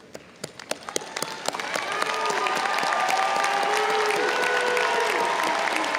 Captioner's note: audience cheering and applauding